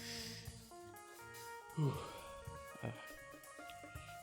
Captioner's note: exhale